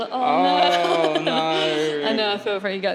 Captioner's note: laughs